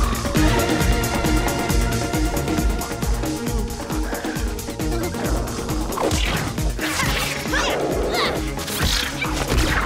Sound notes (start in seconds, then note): 3.9 O'Keeffe whimpers